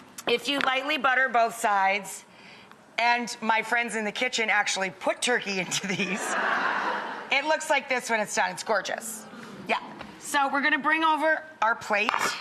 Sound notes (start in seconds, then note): 5.7 audience laughs; 9.1 audience hums